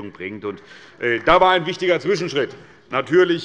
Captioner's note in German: Beifall des Abg